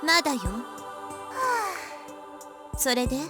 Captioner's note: relieved sigh